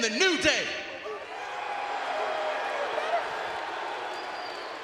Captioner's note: crowd boos